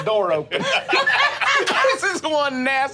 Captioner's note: group laughing